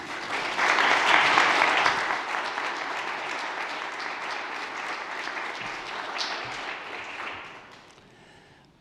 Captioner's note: applause